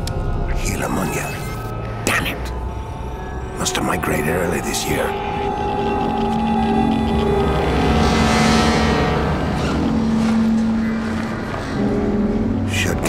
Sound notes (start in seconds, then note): 5.3 geiger counter crackles; 8.1 wind starts to rise